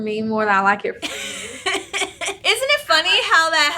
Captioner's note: laughs